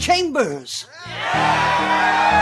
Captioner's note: crowd